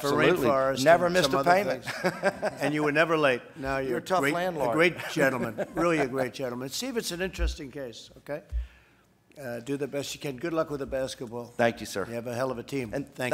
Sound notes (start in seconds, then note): 1.8 laughter; 5.0 laughs